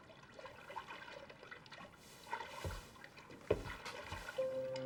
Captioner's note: water splashing